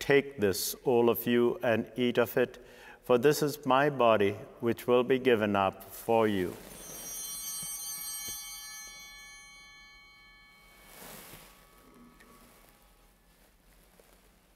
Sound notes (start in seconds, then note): 6.5 bell ringing